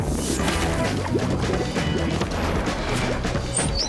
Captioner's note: sci-fi music; water gurgling; sci-fi music